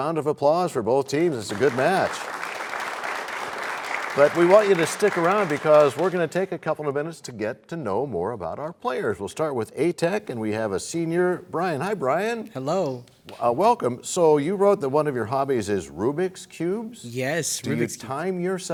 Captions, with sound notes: Can we have a round of applause for both teams? It's a good match. [applause] But we want you to stick around because we're going to take a couple of minutes to get to know more about our players. We'll start with A-Tech, and we have a senior, Bryan. Hi, Bryan. -Hello. -Welcome. You wrote that one of your hobbies is Rubik's Cubes. -Yes.